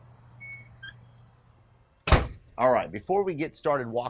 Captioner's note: door closing